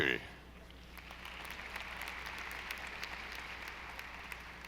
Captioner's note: audience applauding